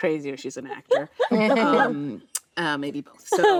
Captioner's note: actresses laughing